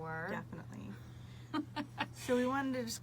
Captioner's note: laughs